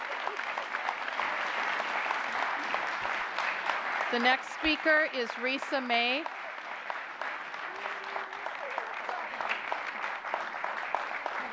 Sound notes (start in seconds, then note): 4.6 applause